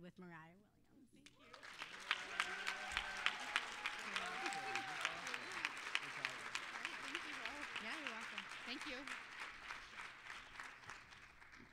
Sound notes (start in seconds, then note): 1.3 applause